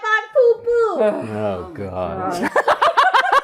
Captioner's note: groaning; laughing